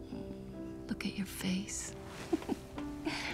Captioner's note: chuckles